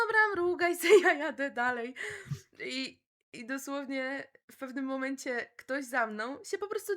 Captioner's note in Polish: śmiech